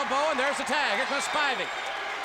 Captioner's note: audience cheers